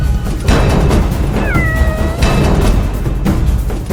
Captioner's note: cat meows